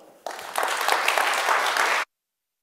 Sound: audience clapping

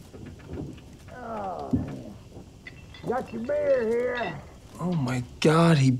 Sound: groans

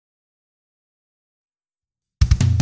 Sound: silence

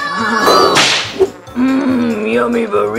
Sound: whip cracks

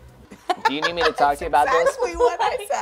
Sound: laughing

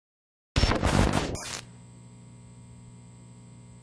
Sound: static

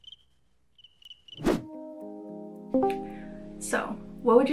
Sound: cricket chirps

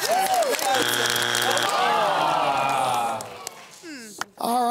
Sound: buzzer sounds

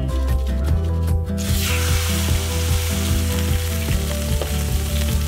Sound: steak sizzling

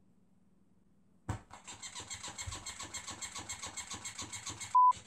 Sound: squeaking noise

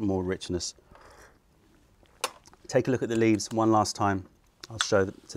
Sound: sips tea

